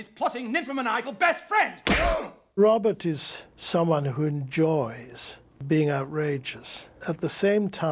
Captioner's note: gasps